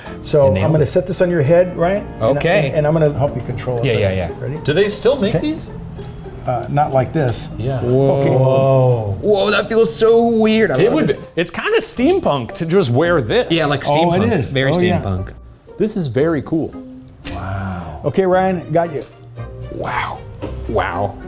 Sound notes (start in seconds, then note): 16.7 metal clicking; 20.2 playful music continues